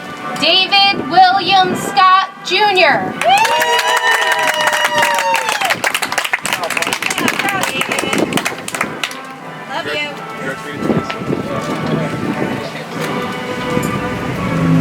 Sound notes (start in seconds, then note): 6.9 audience applauds; 12.2 soft music